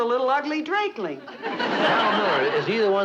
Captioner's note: audience laughing